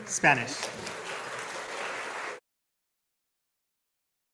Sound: audience applauding

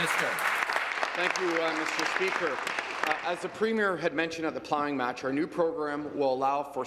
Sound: applause

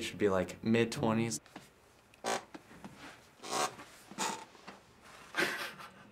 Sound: chair creaking; snickering

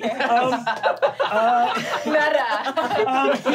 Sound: laughing

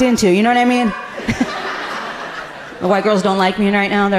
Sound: audience laughing amusingly

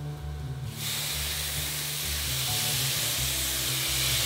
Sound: steaming

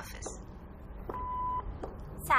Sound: message beep

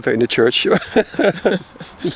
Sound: laughing

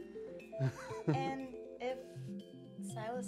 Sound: chuckles

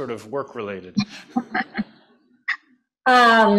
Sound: laughter

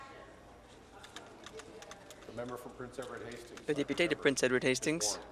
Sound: voice trailing

